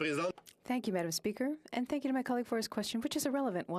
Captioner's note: speaking French